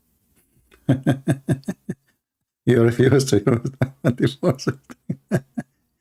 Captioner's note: Ketawa